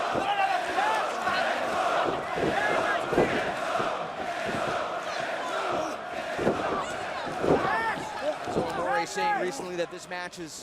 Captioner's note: crowd chatter